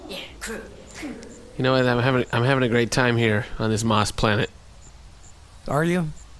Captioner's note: in the deadest voice imaginable